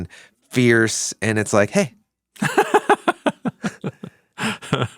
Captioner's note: laughs